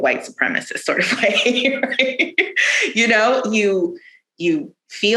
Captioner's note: laughs